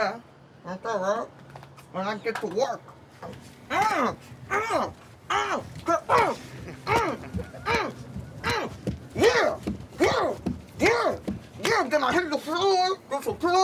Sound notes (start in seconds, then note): 3.3 grunting